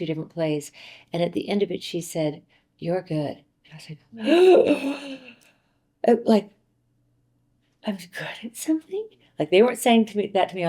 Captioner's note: gasps